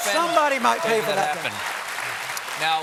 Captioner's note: applause